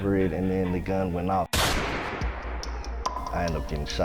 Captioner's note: gun shot